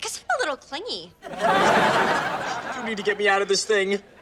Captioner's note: audience laughs